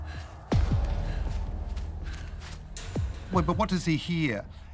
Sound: boy panting

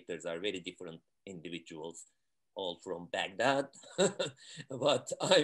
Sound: laughs

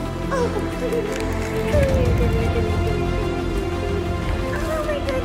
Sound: laughter

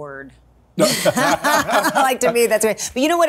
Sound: both laugh

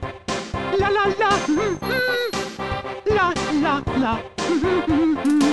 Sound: humming

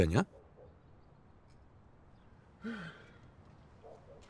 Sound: officer sighs

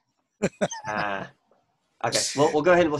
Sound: laughs

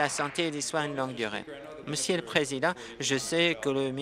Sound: applause

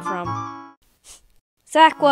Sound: sad Sniff

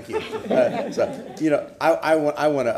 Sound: laughter

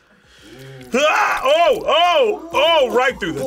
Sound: grunts

